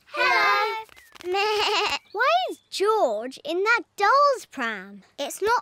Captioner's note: bleats